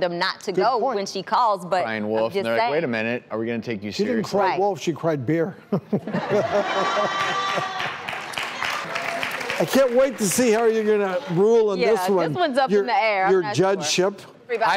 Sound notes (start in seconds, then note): 5.8 audience laughing; 6.9 audience clapping